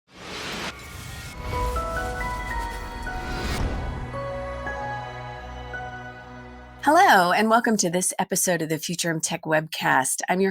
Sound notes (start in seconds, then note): 0.1 whooshing; 1.1 soft music